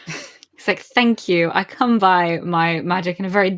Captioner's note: laughing